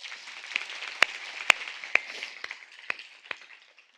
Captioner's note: audience claps